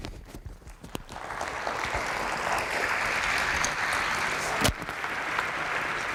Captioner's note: applause